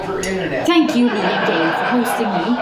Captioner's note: laughter